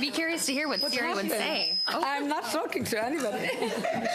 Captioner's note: laughter